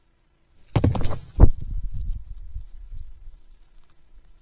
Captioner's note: loud thump